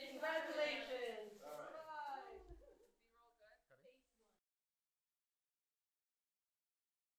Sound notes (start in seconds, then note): 0.0 people cheering; 1.8 people chattering